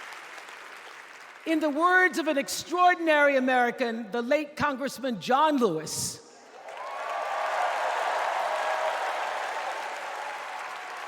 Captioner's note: applause